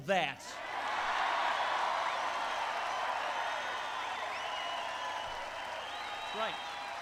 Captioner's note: applause